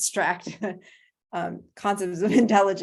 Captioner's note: laughter